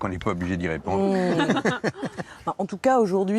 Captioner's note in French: rires